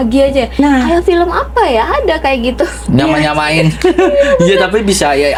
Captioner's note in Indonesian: tertawa